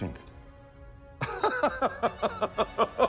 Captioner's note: laughing